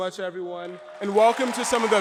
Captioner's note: audience applauds